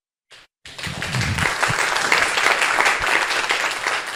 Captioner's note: audience applause